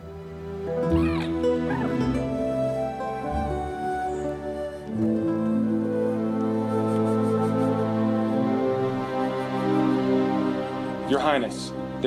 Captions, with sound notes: [chittering] Your Highness,